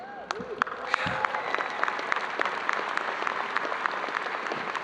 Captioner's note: audience applauding